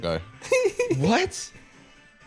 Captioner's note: laughing